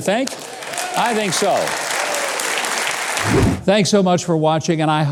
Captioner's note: audience applauds